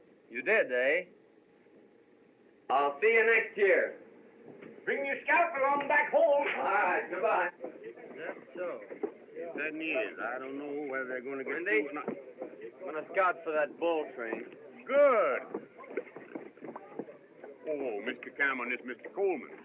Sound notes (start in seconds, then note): 9.1 windy; 15.2 popping